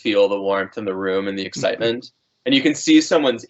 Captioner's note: chuckling